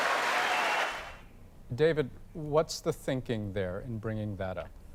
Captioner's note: applause